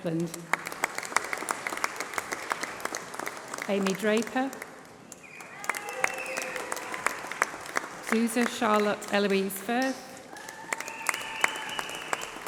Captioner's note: applause